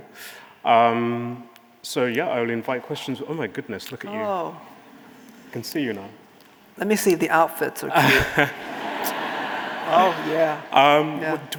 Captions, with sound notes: So yeah, I will invite questions. Oh my goodness, look at you. I can see you now. Let me see the outfits. (audience laughing) Oh yeah.